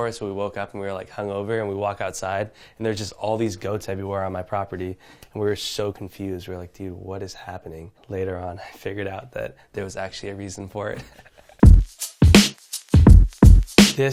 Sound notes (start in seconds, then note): 10.9 chuckles; 12.8 upbeat music